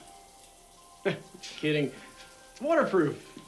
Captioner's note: laughs